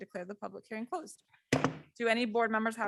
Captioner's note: gavel bangs